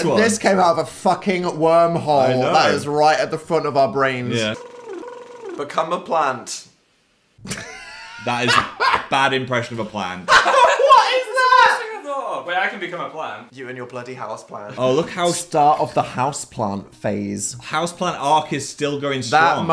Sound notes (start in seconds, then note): 4.4 blowing raspberry; 7.4 laughs